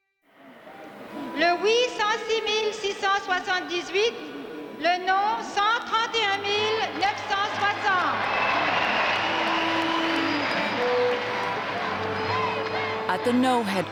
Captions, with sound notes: LE "OUI": 106, 678. LE "NON": 131, 960. [crowd applauding and cheering] AT THE "NO" HEADQUARTERS,